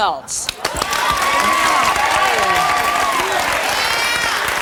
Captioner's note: audience cheering